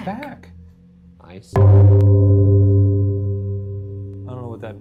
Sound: gong chiming

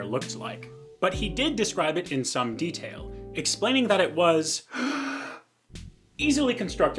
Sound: comical deep breath

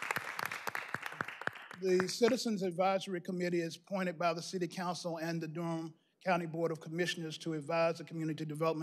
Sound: applause

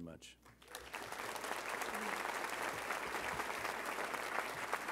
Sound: audience applauding

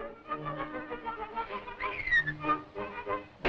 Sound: whistles

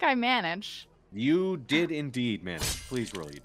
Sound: dagger hitting sound effect

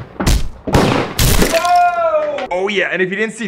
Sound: gunshot and thud; gunshot and crashing

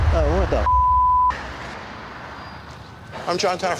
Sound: beep

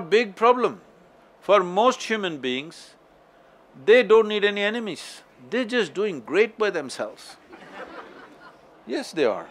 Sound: laughter

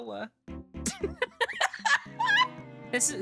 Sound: laughter

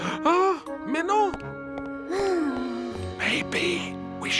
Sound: sighs; whispers

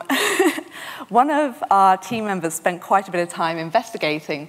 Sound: chuckles

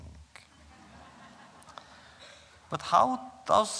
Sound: laughter

